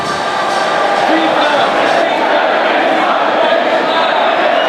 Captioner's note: crowd shouting